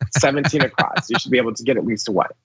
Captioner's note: laugh